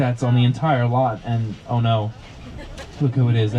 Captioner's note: passenger laughs